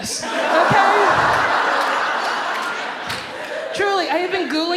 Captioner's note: audience laughs